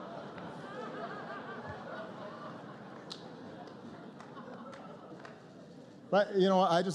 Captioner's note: laughter